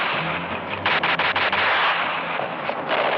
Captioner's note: gunshots